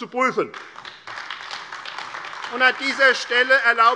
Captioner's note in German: Beifall AfD